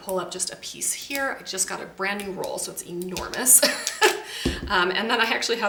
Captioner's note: chuckles